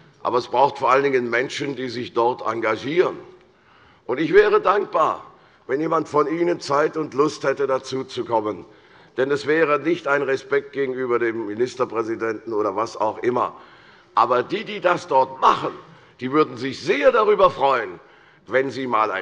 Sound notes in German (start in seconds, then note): none